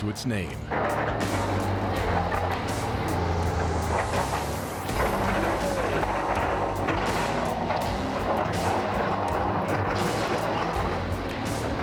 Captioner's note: clanking sound